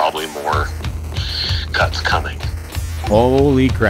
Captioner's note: takes deep breath